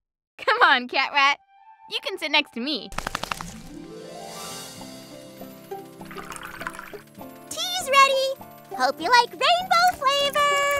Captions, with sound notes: Come on, CatRat. You can sit next to me. [sputtering] [rattling] Tea is ready. Hope you like rainbow flavor.